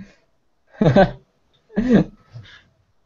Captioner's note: giggle